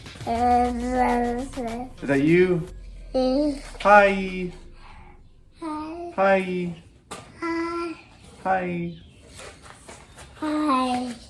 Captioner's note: toddler babbling